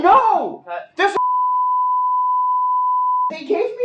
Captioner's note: broadcast test tone